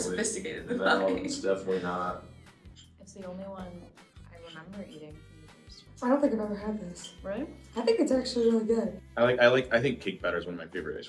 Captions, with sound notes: - Sophisticated than that. - No, it's definitely not. (student chuckling) - It's the only one that I remember eating from MSU. - I don't think I've ever had this. - Really? - I think it's actually really good. - I think cake batter's one of my favorite